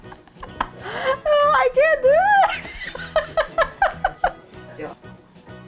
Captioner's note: laughing